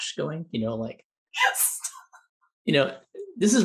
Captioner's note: laughs